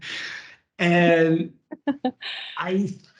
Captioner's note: laughs